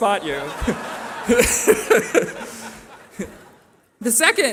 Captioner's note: laughter